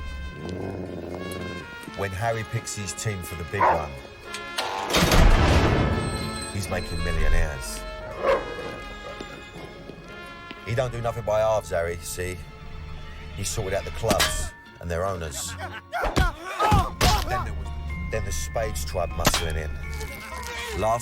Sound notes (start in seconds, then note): 0.0 dog growls; 8.2 dog barks; 15.3 man grunts